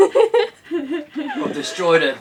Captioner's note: laughs